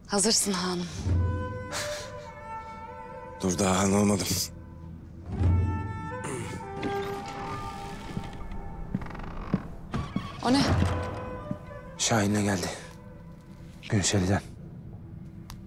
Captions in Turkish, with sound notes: Hazırsın Han'ım. Dur daha Han olmadım. [Kapı Açılma Sesi] O ne? Şahin ile geldi. Günseli'den.